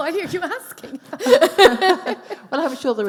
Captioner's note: laughing